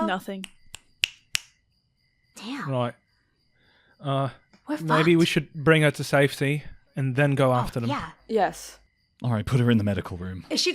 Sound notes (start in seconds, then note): 0.4 snaps fingers